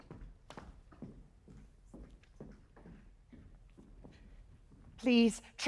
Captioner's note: footsteps